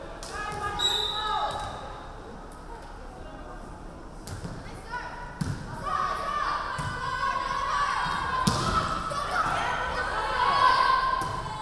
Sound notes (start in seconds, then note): 0.7 referee whistling